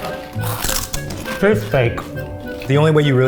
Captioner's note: crunching